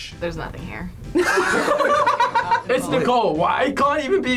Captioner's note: group laughs